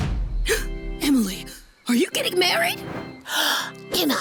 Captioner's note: gasps